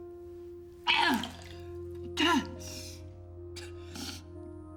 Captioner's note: vomiting